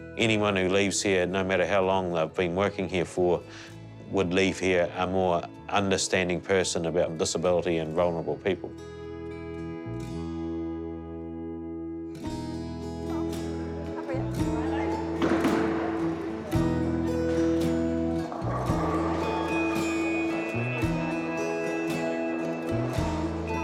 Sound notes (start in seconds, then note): 12.1 gentle acoustic music; 15.0 pins clatter